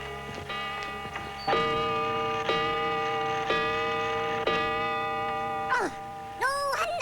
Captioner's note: ding dong